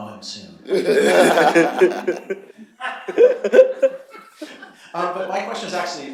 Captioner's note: laughter